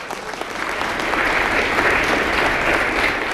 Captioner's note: applause